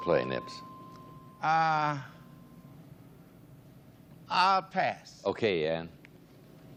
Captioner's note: bell dings